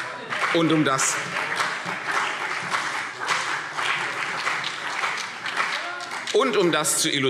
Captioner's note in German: Beifall CDU und BÜNDNIS 90/DIE GRÜNEN